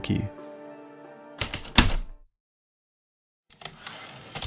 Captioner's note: heavy typewriter keystrokes then return slide